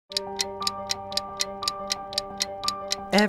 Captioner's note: clock ticking